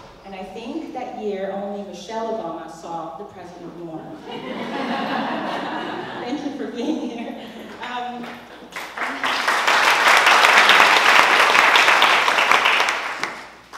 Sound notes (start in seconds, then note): 4.2 laugh; 8.6 applause